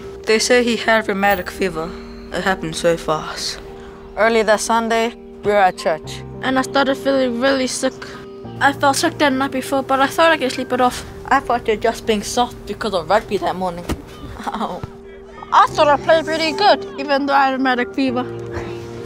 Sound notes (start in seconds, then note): 14.1 laughs